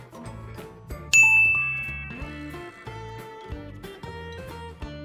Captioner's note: bell rings